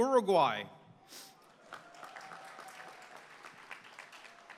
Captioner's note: applause